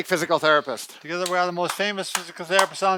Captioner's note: clapping